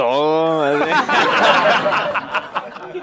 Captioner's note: laugh